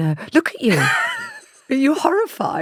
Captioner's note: laughs